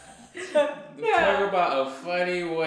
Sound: laughter

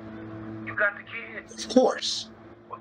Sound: speaker phone

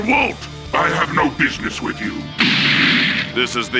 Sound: thud!

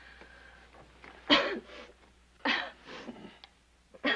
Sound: coughs

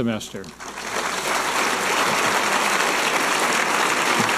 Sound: audience applauding

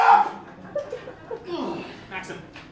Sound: laughter

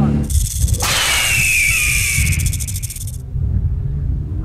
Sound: whip cracking; eagle squawking; engine revving

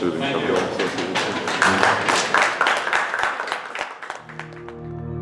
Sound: applause

